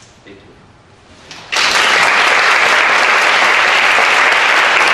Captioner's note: audience applauds